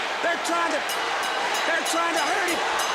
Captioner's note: bell ringing